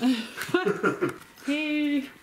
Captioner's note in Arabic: يضحك